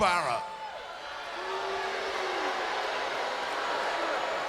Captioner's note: crowd booing